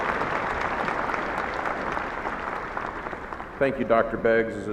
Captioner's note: applauding